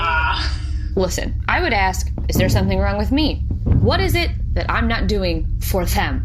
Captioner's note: pacing